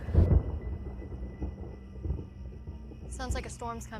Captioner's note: thunder in distance